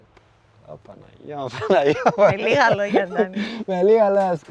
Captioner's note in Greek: γέλια